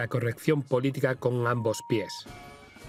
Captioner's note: beep; dramatic music